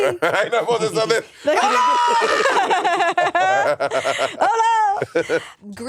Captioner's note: all laughing; Monét screaming